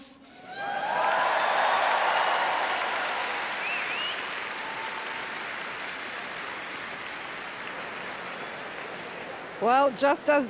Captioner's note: whooping and applause